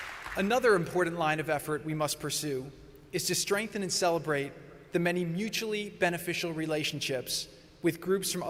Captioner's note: applause